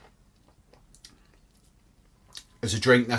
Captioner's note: smacks lips